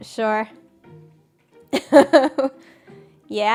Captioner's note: laughs